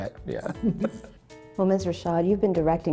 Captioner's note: both chuckle